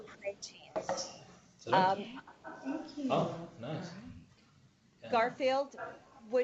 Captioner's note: random chatter